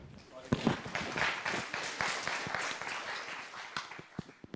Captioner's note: applause